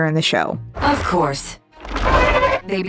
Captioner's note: Kaiju roaring